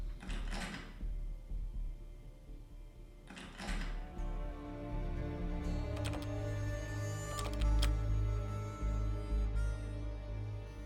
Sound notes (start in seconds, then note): 0.1 lock rattling sound; 5.2 louder lock rattling